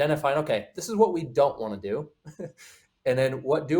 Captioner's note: chuckles